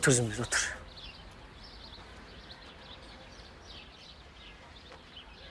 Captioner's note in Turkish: Kuş sesleri